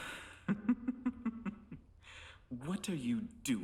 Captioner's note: Hindley laughing